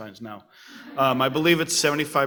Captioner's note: audience laughs